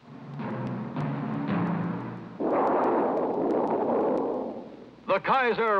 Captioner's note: drums pounding; aluminum thundering